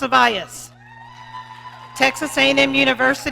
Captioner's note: audience cheering